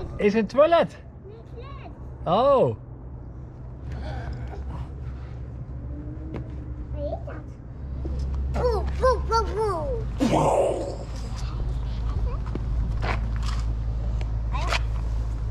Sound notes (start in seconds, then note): 1.4 speaks in Dutch; 10.2 imitates explosion